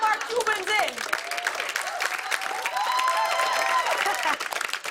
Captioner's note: cheers and applause